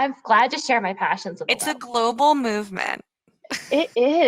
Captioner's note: laughs